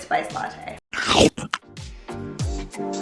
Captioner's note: dog chomps; bright, bouncy music